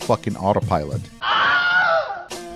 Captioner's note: scream